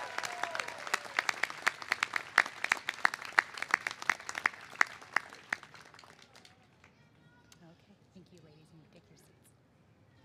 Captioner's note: applause